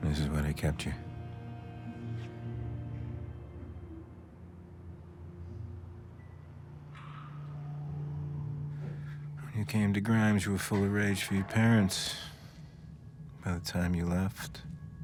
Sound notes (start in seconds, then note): 6.9 lights buzzing; 6.9 lights clicking